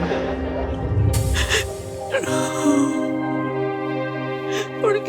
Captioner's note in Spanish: Sollozos